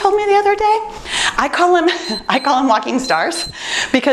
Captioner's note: timer beeps